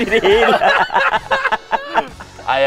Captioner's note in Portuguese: Risada